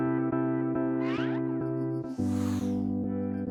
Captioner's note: graphic whooshing; graphic zooming; graphic whooshing